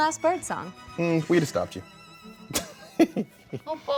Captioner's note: laughs